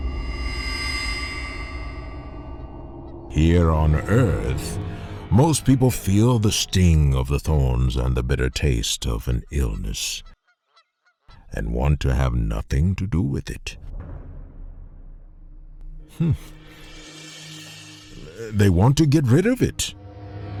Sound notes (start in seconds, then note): 0.0 cymbal ringing; 10.8 seagulls; 13.7 drums; 16.1 cymbals